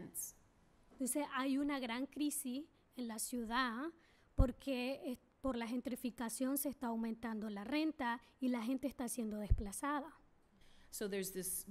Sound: speaking spanish

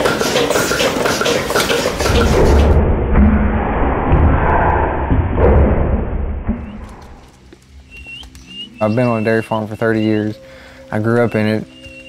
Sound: sounds of machines

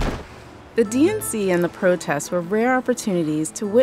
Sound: voiceover

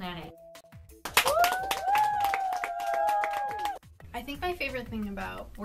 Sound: applause

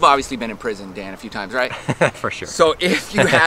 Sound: laughs

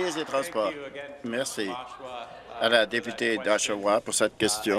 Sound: applause

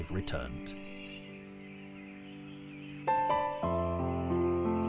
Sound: birds chirping

